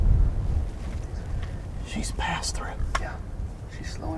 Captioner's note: whispering